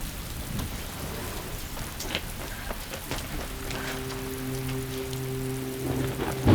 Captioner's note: rain pattering; soft orchestral music